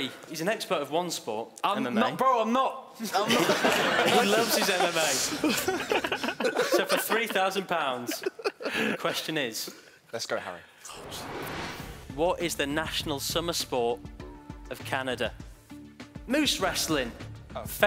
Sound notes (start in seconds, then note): 3.1 laughing; 10.8 whooshing